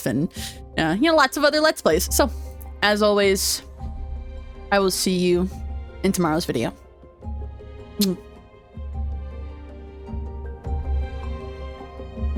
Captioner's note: kiss